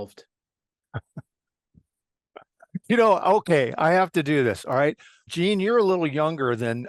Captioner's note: laugh